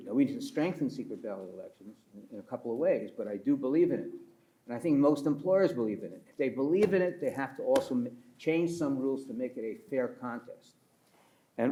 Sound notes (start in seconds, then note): 6.8 pats table